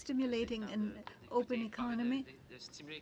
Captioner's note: speaking French